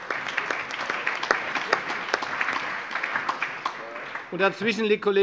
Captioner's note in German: Allgemeiner Beifall